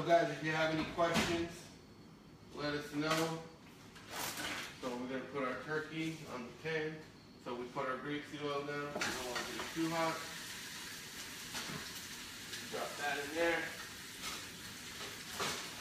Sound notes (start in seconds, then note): 10.5 pan sizzles